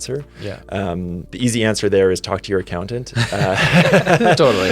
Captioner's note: laughs